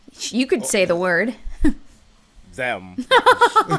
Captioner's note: chuckles; laughter